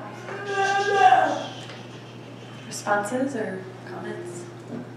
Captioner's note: shushing